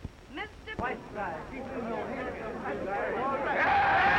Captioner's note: all chattering; crowd cheering